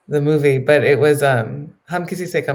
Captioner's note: speaking in foreign language